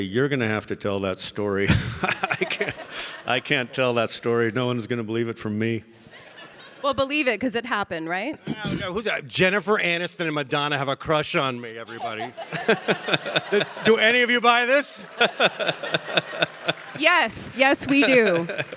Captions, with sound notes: you're gonna have to tell that story." I can't tell that story. No one's gonna believe it from me. (audience laughing) - Well believe it 'cause it happened, right? Jennifer Aniston and Madonna have a crush on me, everybody. (all laughing) - Do any of you buy this? (audience laughing) - Yes. Yes we do.